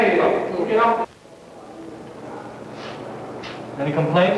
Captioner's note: indiscriminate chatter